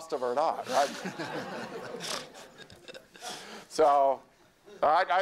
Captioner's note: laughter